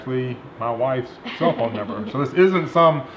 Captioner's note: laughing